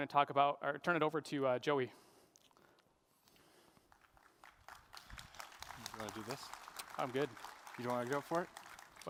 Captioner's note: applause